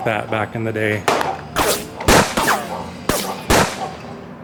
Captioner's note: gun shots